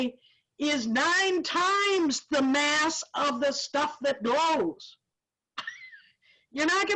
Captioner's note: laughs